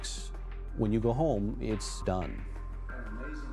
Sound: voiceover

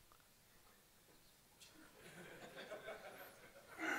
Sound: laughing

